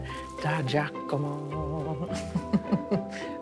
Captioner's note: laughs